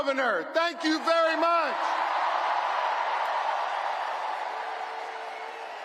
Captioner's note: applause